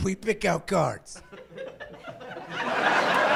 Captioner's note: giggling